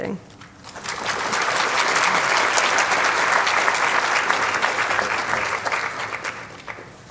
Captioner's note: applause